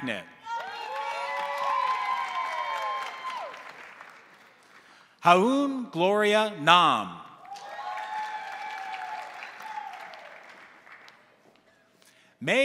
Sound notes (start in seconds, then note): 0.4 crowd cheering; 0.5 crowd applauding; 7.4 crowd cheering; 7.4 crowd applauding